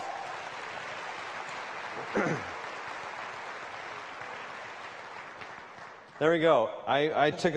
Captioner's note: applause